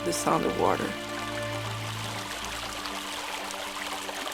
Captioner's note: water flowing